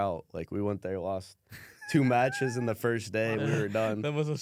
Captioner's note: laughs